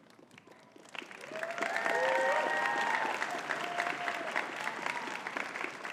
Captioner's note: audience cheering and clapping